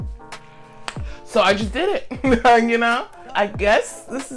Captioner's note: laughing